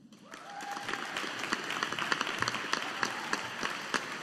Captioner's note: audience applauding